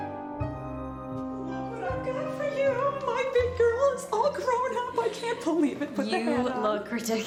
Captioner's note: happy chatter